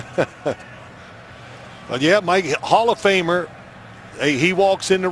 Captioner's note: laughter